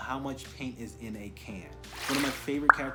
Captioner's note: swoosh pop